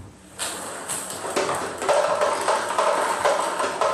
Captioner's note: balls ping pong hitting